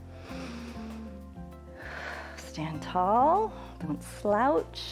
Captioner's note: inhales and exhales